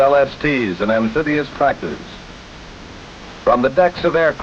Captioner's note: crashing waves